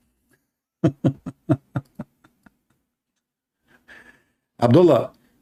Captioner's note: laughter